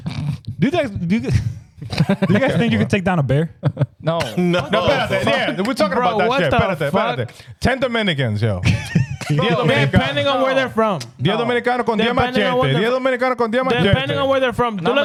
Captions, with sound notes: do you guys think you can take down a bear? No. (Speaking In Foreign Language) 10th Americans, yo. (Laughing) Depending on where they're from. (Speaking In Foreign Language) Depending on where they're from.